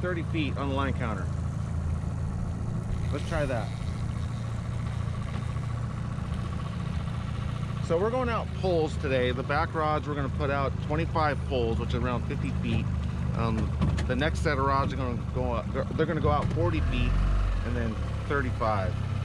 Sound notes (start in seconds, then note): 4.2 reel spinning